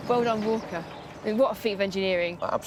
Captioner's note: train rattling